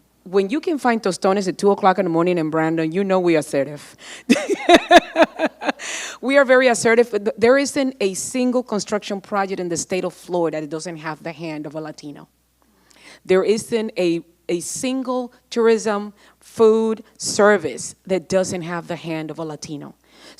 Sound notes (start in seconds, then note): 4.2 laughing